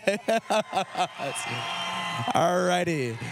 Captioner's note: cheering